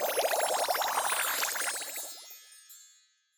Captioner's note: bubbling